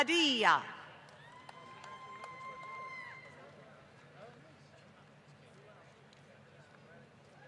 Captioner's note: applause